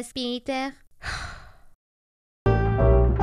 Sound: sigh

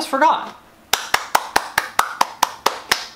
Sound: claps

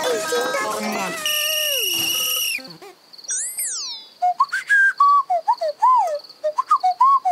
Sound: whistles

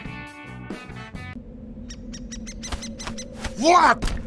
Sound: music suddenly stops/wind sounds

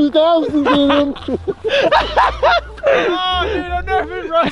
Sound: laughs

